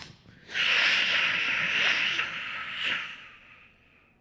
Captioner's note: beatboxing